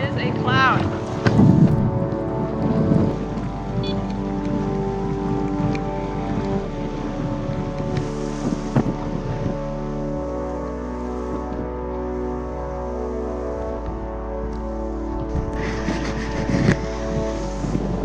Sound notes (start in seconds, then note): 3.8 electronic beeps; 5.9 soft somber music